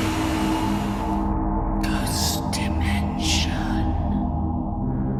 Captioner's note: whispers ghost dimension